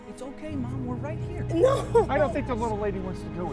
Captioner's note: crying